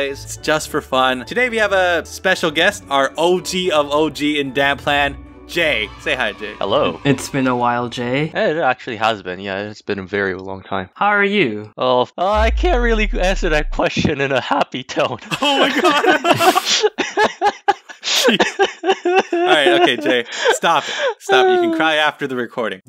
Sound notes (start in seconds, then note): 15.3 laugh; 15.3 laughs; 15.3 still laughing; 18.6 sobbing